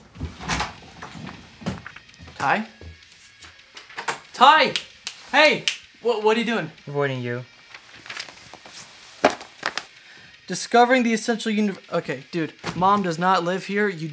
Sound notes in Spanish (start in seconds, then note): 0.0 puerta se abre; 4.7 chasquea dedos